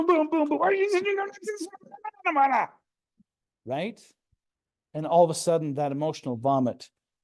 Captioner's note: mumbling